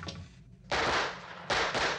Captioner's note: gun firing